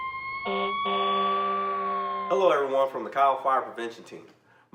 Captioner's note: firetruck siren sounding